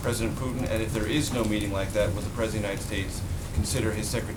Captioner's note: laughter